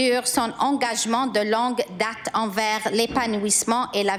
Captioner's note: speaking in french